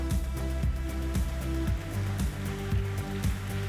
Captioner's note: upbeat music; applauding